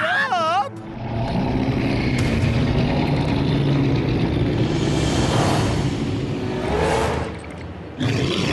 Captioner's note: snarling; roars